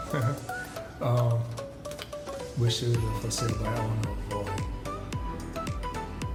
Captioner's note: chuckles